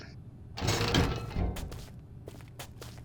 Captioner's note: door opens